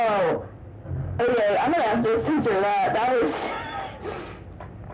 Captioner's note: wheeze